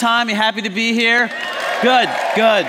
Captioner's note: cheers